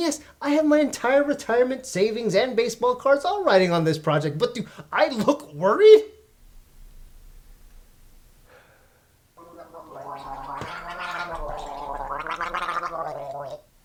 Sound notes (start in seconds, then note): 8.5 sigh; 11.2 gargling